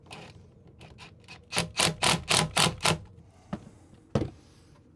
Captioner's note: drill drilling